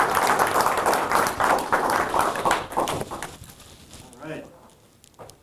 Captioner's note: audience applauding